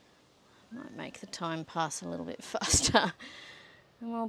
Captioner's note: scoffs